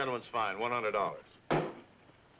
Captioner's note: bang